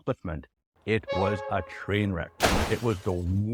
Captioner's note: vehicles colliding